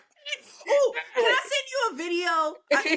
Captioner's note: laughing